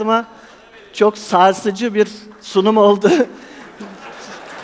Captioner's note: laughing